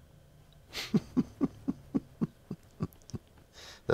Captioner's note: laughs